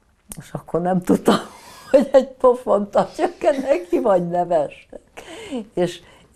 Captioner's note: laughing